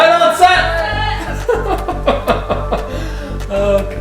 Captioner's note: laughter